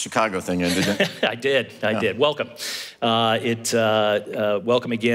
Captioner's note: laugh